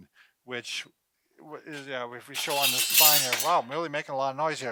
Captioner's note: metal clashing